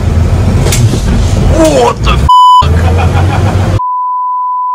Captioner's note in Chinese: 謎之笑聲